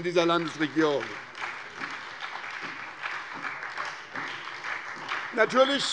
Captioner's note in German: Beifall bei der SPD